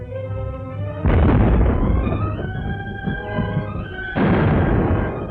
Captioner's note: cannons booming